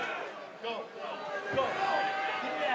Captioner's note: crowd chatter